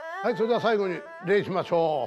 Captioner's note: speaking japanese